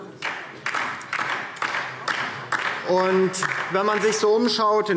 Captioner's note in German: Beifall DIE LINKE